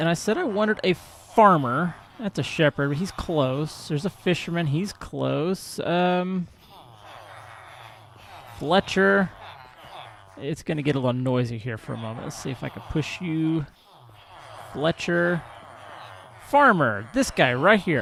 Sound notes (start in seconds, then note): 0.0 villagers chattering; 7.5 chattering continues; 16.6 chattering continues